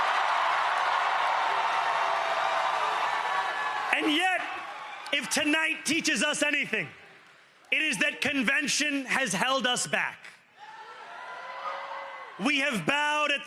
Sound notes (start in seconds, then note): 0.0 cheering; 7.9 cheering and applause; 10.6 cheering and applause